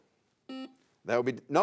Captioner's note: buzzer sounds